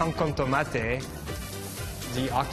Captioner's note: griddle sizzling